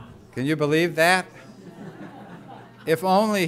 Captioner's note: laughter